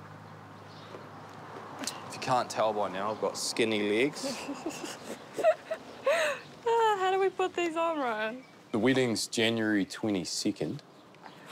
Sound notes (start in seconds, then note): 4.1 laughs